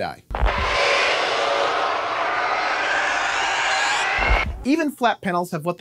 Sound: epic Screaming

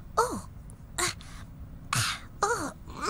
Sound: grunting

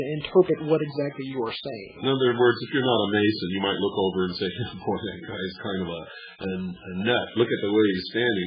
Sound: laughs

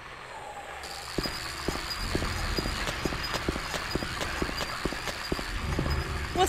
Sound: mechanical sound and radio static

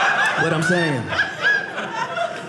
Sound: audience laughing

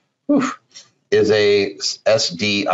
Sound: sighs

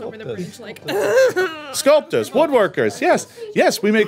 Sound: crying

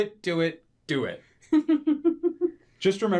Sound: laughs

